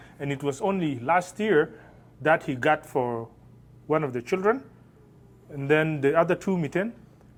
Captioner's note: speaking Arabic